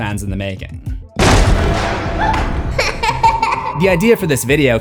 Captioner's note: kid laughing; door Slams Open